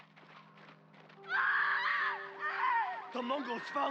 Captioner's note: screams